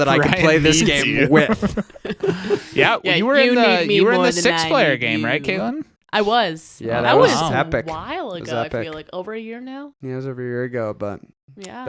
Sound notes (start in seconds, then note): 1.7 laughing